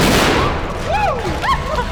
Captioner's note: bang; scream; laughter